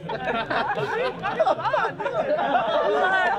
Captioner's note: laughter